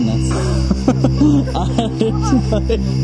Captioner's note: laughs